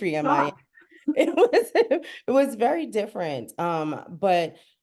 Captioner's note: laughs